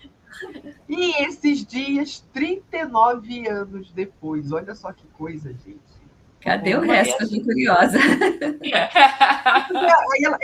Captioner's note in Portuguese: risadas; risadas